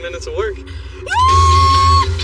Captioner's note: shrieks; bright t music